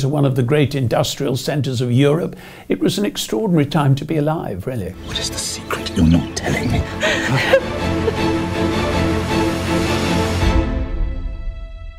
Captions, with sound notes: one of the great industrial centers of Europe. It was an extraordinary time to be alive really. - What it the secret you're not telling me? (stifled sob) (dramatic orchestral music)